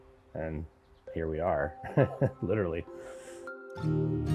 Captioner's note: laughs; gentle acoustic music